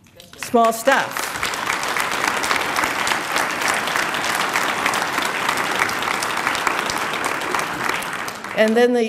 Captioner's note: applause